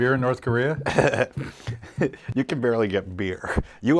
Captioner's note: laughs